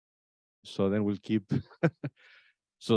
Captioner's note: laughs